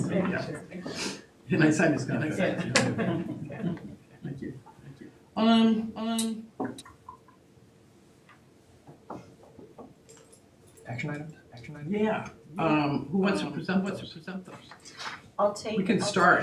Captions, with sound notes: (audience laughing) Can I sign this guy? Yeah. Thank you. Thank you. Um. Um. (keyboard clacking) Action item? Action item? Yeah. Um, who wants one for some? What's for some? I'll take-- We can start.